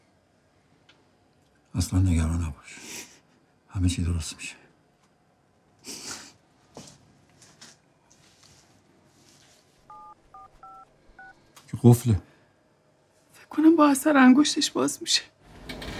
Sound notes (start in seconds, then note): 9.8 phone beeping sound